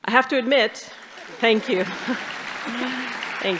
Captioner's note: audience applauding